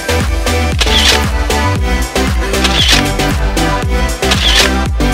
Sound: upbeat music; camera shuttering

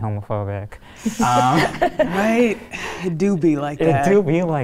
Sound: participants laugh

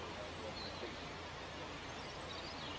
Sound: engine noises

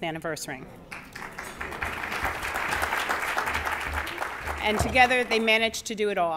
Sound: applause

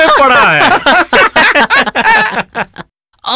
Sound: laughs

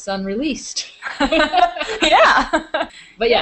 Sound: both girls laughing; laughing

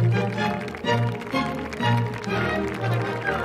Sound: applause continues over music

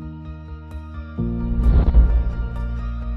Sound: motivational music; swoosh sound; motivational music

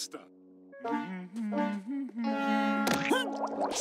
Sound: humming

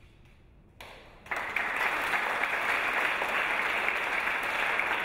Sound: audience applause

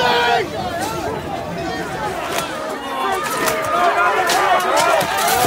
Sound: crowd yelling and cheering

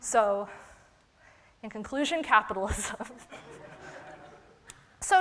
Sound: laughter

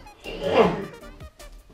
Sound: cough

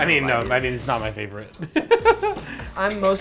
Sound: laughs

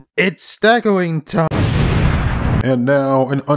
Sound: explosion

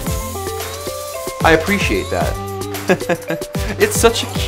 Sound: laughs

